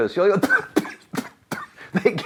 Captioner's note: spluttering and coughing